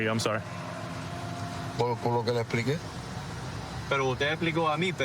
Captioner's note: speaking spanish